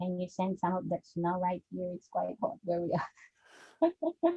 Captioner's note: chuckles